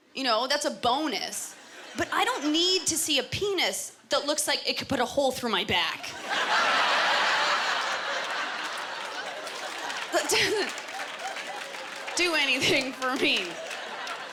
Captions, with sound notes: you know, that’s a bonus. But I don’t need to see a penis that looks like it could put a hole through my back. (Laughter) That doesn’t... Do anything for me.